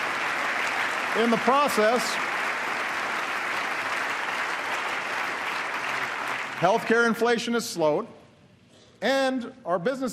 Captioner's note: applause